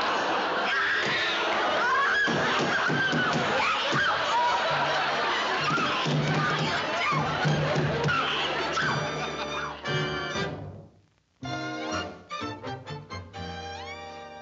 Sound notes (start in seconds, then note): 0.5 screaming